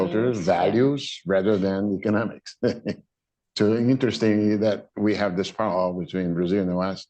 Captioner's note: laughter